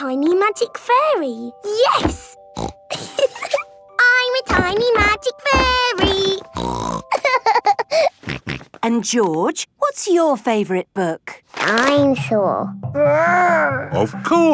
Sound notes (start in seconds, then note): 2.6 snorting and giggling; 6.0 snorting and laughing